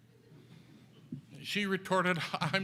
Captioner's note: audience laughs